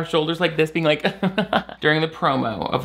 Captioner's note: laughing